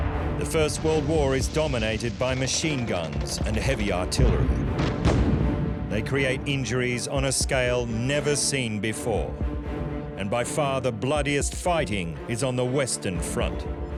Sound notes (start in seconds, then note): 4.7 machine gun fire; 4.9 explosions